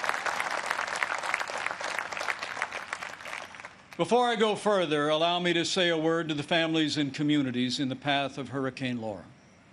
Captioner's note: applause